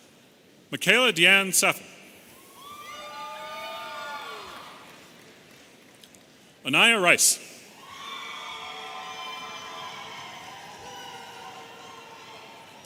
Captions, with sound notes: Makayla DeAnn Saffle. (audience cheering) Anaiya Rice. (audience cheering)